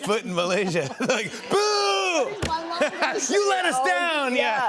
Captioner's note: laughter